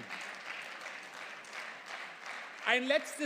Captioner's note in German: Beifall